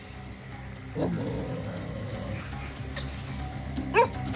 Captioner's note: growling